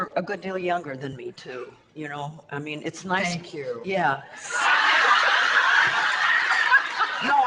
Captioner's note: audience laughter